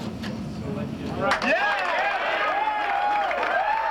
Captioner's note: cheers and applause